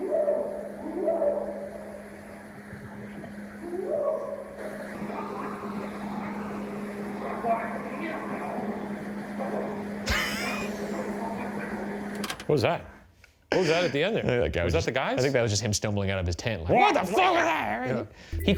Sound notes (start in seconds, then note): 7.5 researcher faintly speaking; 10.0 laughing